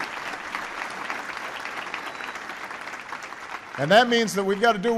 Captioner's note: applause